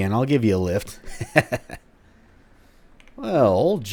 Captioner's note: laughs